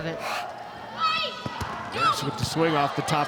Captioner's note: players shouting indistinctly